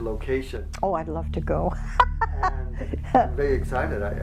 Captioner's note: laughing